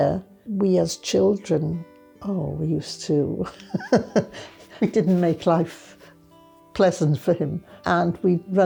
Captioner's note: laughes